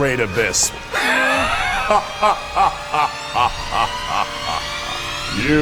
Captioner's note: ominous laughter